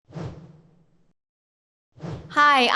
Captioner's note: swoosh